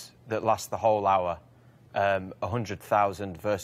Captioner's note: none